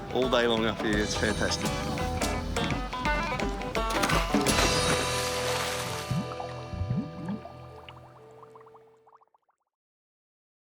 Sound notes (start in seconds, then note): 2.7 water splashing; 3.8 upbeat instrumental music